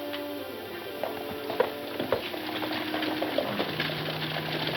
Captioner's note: hooves clomping